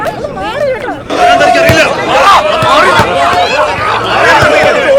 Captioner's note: protest Commotion